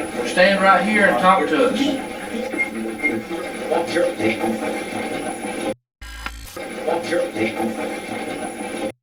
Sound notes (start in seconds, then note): 2.5 static playback transmitting; 6.6 static fizzing